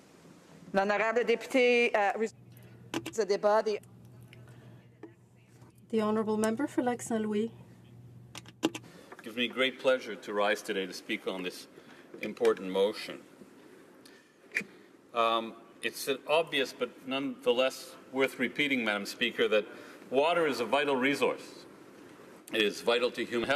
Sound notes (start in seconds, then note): 8.7 speaking French